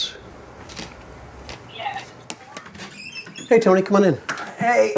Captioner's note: door squeaking